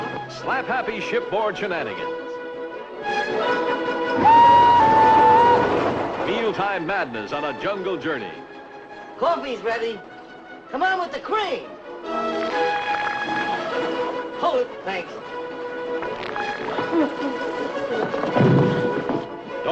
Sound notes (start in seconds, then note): 12.2 squirts; 16.0 squirts; 18.0 thud